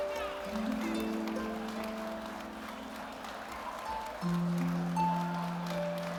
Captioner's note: audience applauding; people chattering